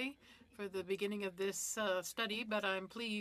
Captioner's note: speaking French